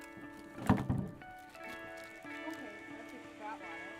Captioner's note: clunking